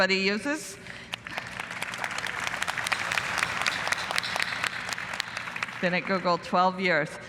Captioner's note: applause